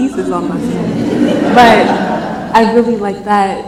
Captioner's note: laughs